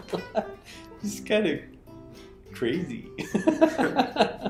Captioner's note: laughs; laughs